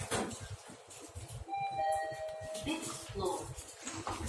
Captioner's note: chime